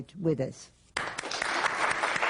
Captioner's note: applause